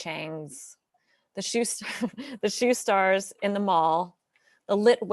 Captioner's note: chuckles